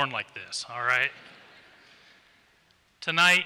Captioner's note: laughter